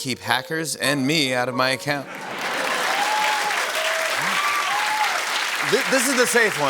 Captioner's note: cheers and applause